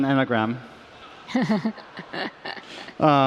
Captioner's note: laughter